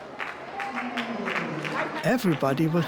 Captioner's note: scattered claps